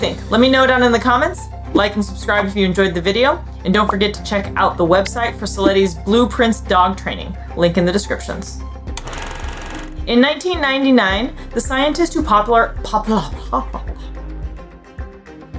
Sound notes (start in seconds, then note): 8.7 background music; 9.0 film rolling sound effect; 14.4 background music